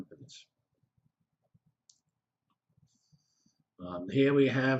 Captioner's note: pause